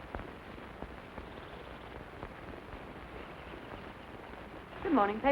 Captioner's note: birds chirping